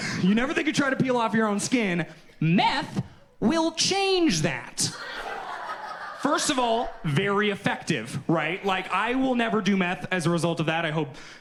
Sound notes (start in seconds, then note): 4.8 audience laughs